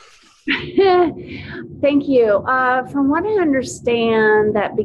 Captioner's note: laughs